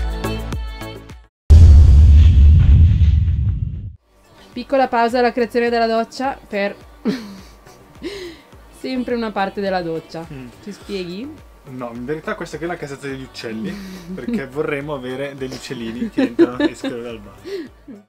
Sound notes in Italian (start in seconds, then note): 7.0 risata; 15.9 risata